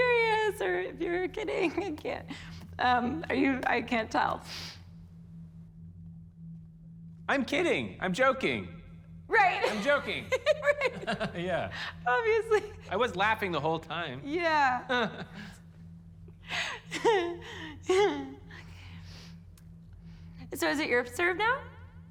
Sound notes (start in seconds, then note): 9.6 laughs; 9.7 max chuckles; 16.5 chuckles awkwardly; 16.6 chuckles